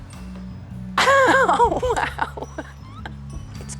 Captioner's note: laughing